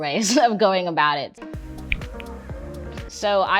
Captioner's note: fingers snap